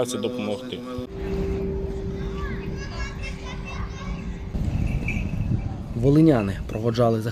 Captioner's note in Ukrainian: Б`ють у дзвони